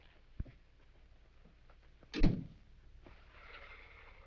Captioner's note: door closes